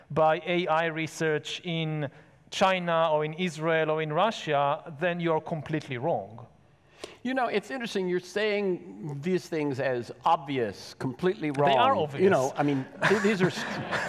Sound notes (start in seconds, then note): 12.3 laughs